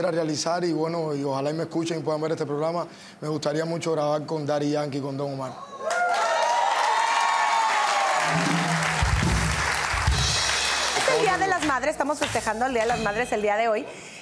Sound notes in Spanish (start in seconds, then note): 5.8 Aplausos